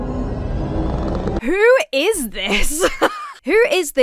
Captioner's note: tense music; laughs